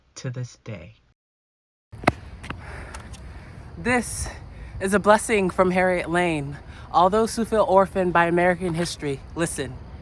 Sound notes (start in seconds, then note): none